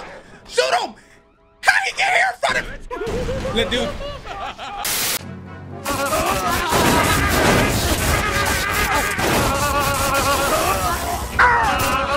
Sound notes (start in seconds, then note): 2.7 laughing; 5.9 guns firing chaotically; 8.5 electricity cracking